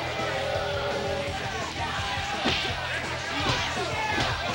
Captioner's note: crowd cheering